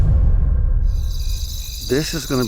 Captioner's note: dramatic music; crickets